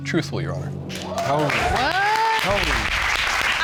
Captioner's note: audience applauds